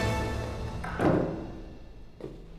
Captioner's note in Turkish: Kapı kapanma sesi